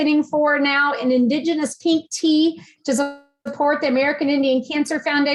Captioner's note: distorted audio